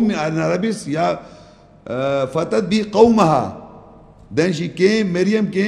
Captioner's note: Arabic